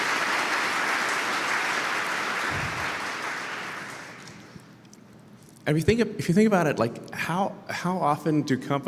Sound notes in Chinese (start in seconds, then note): 0.0 Applause; 4.8 鼓掌